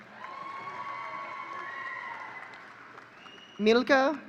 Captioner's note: audience cheering